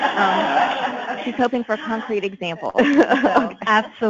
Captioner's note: many laughing; laughs